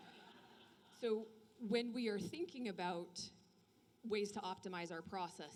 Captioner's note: laughter